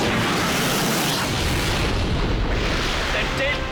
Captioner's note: explosion